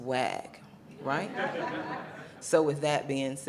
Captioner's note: audience laughing